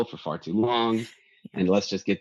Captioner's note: chuckles